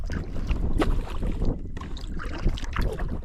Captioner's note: none